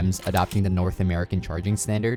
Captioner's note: graphics shuffling